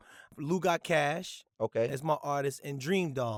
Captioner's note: none